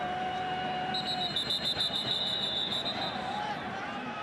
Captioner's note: whistle blows